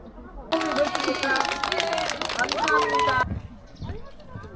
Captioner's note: applause for the hardworking guide